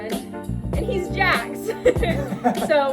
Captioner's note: giggles